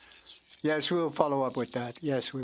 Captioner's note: speaking French